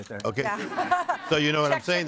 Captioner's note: audience laughing